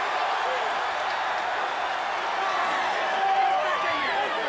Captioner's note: audience cheers